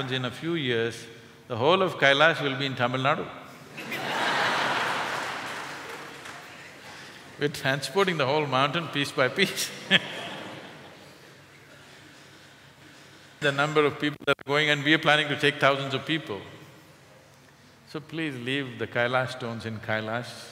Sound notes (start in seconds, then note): 3.7 laughter; 9.4 laughter